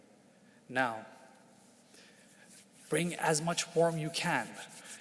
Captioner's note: palms swishing